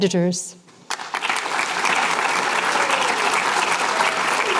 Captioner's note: applause